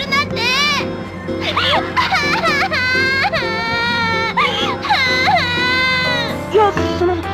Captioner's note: Asuka cries